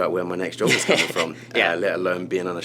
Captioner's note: laughs